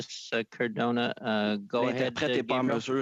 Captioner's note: speaking French